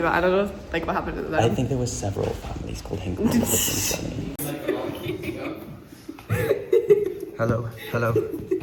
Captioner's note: laughter